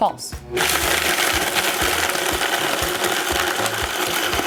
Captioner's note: blender whirring